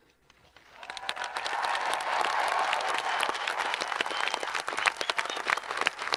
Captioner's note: audience applauding and cheering